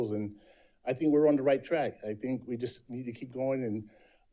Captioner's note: none